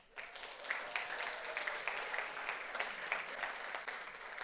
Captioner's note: audience applauds